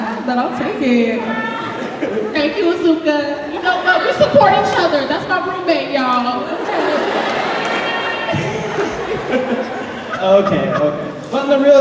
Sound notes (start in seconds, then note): 6.4 audience laughing